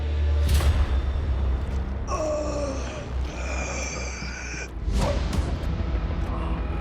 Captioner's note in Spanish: Gemidos